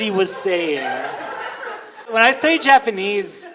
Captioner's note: audience laughing